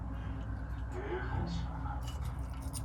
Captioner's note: quivering